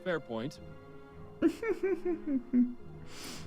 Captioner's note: chuckles